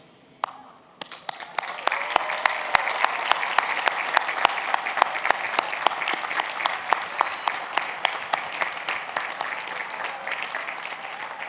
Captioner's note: cheers and applause